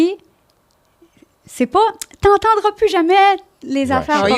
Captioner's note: in french